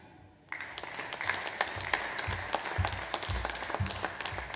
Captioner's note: audience applauds